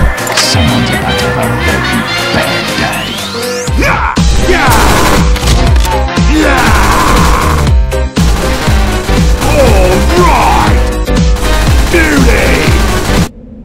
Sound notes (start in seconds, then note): 4.1 screams and gunshots; 8.2 more gunshots